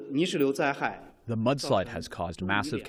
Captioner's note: through translator